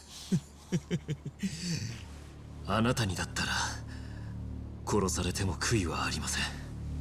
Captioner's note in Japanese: 笑い